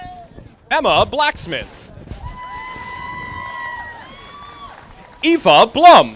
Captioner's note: audience applauding